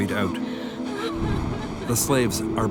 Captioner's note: woman crying